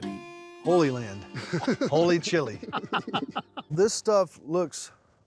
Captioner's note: laughs